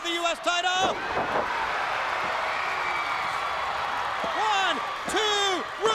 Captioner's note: crowd cheering